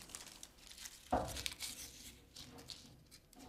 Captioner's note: rustling